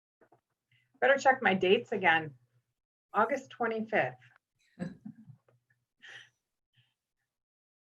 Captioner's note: laughter